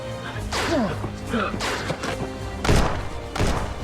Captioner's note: gun bangs